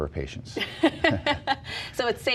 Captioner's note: laughs